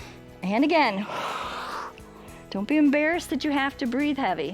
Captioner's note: exhales; exhales and inhales